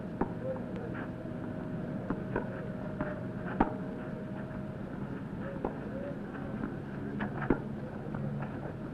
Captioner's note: racquets hitting balls